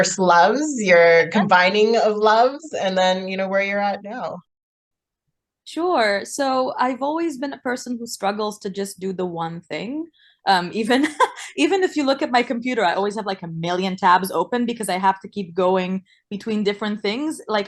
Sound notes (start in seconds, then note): 10.9 laughs